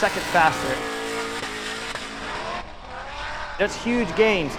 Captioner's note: engine revving